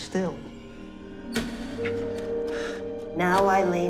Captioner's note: door creaking